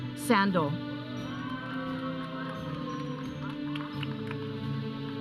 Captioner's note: audience cheering; processional music